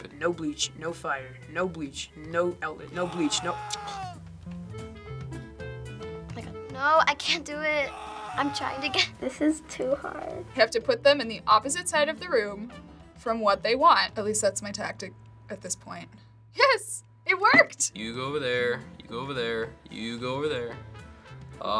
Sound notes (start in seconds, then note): 2.9 man screaming; 2.9 tsking; 7.8 man screaming